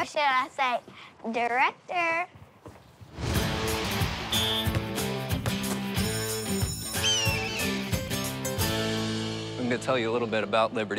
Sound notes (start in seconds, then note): 4.2 whistle blows; 6.3 bell ringing; 6.9 bird screeches